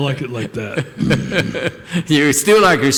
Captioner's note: laughter